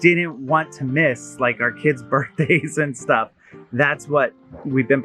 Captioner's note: laughing